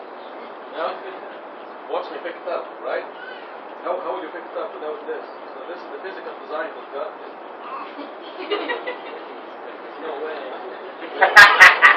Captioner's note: gülüşmeler